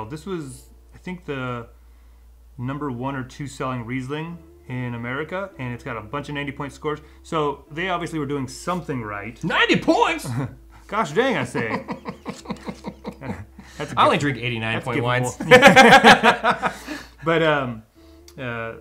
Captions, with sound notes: This was, I think the number one or two selling Riesling in America. And it's got a bunch of 90 point scores. So they obviously were doing something right. - 90 points! - Gosh, they even say it. - I only drink 89 point wines. (both laughing)